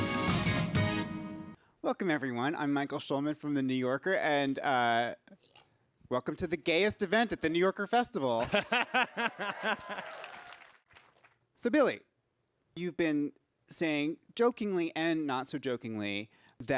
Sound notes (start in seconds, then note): 8.3 Billy laughs; 9.3 audience cheers